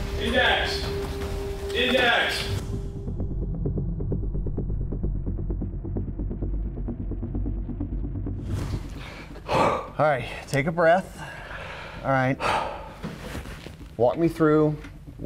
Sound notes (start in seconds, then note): 2.8 foreboding sound; 9.0 exhales